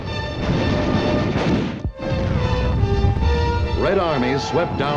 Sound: dramatic music; gun firing

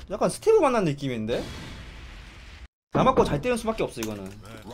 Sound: none

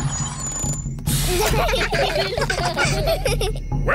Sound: children giggling

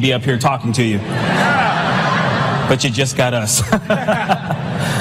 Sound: laughter

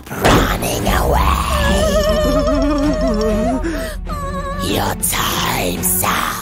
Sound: breathing heavily

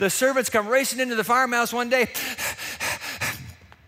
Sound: panting

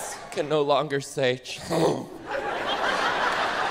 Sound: ugh

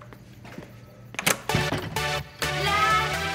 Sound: door opening

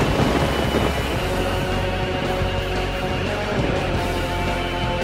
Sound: thunder crackling

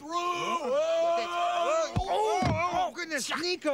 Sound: Jake yelling; Jake, yelling; thud

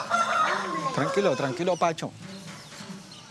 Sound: Spanish spoken audio

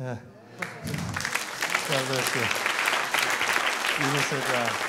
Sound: clapping

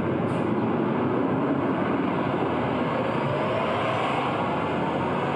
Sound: car engine revving

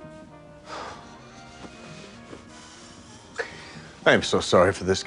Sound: sighs

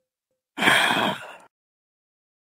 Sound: Flint sighs

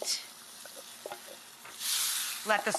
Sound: metal clanging

